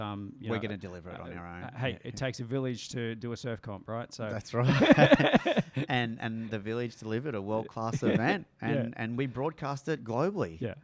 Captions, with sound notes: - We're gonna deliver it on our end. - Hey, it takes a village to do a surf comp, right? - That's right. (laughs) - And the village delivered a world class event and we broadcast it globally.